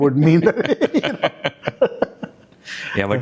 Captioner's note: laugh